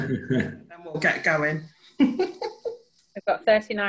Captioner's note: laughing